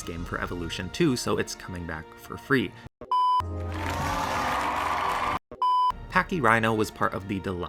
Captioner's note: cheering